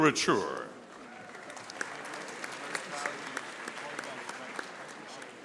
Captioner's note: audience applauding